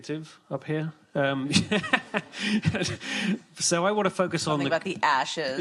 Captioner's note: laughs